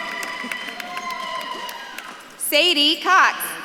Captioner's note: audience claps and cheers